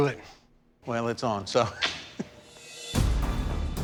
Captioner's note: chuckles; tense music